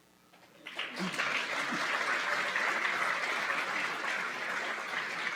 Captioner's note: applause